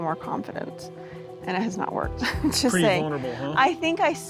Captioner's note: laughs